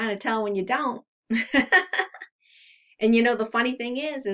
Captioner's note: laughs